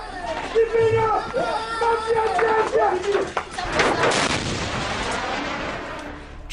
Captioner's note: yelling in foreign language